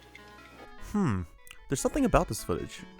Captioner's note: lip smack